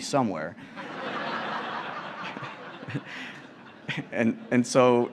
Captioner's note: laughter